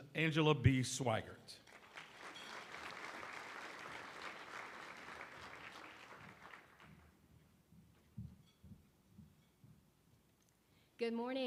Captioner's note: applause